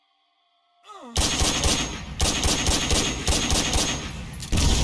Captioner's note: gun firing